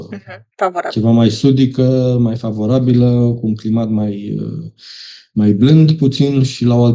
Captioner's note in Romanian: voce dreasă